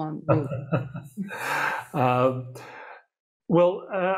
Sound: chuckles

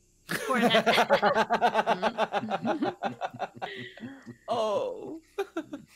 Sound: laughing

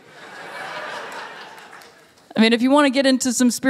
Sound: laughter

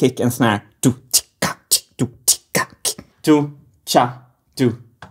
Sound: beatboxing

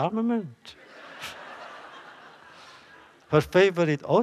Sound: laughter

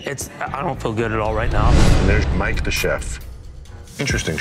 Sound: transition whooshes

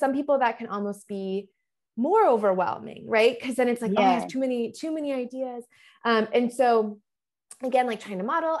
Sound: none

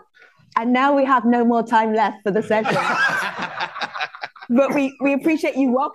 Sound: audience laughs

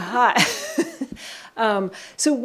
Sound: chuckles

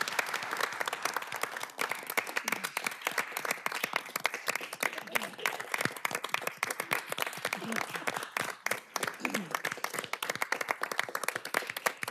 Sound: applause

